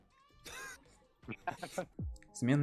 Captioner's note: ha-ha; ha-haha